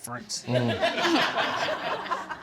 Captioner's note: audience laughing